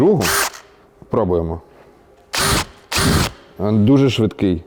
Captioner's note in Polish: dźwięk wkrętarki